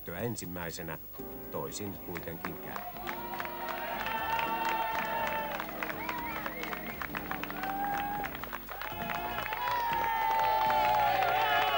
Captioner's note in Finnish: Aplodeja